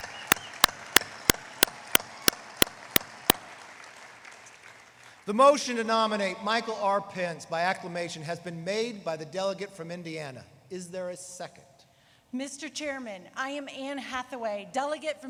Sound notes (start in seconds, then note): 3.6 applause